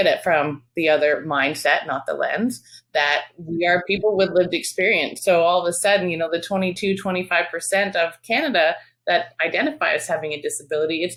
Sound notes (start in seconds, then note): none